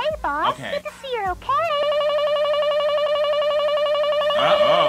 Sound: voice distorts, warbles

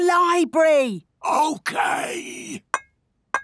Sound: whispering

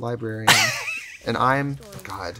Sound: laughing

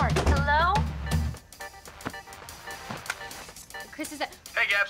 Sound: cell phone ringing

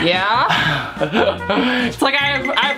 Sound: laughs

